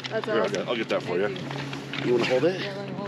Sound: chuckling

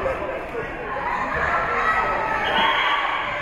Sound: team chanting; whistle being blown

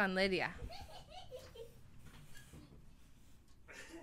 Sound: funny laugh

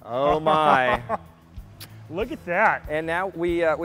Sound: laughing

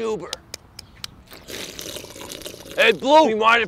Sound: drink slurps

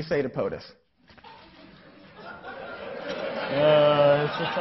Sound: laughing

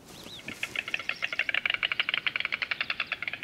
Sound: storks nattering

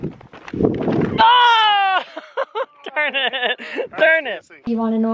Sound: laughing

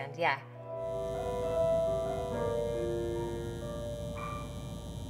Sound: fluorescent light buzzing

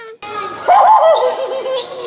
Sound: spooky laughing; imitating spooky laugh

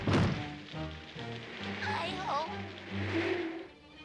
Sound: wind blowing

